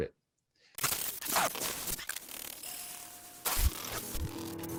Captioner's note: film reel fluttering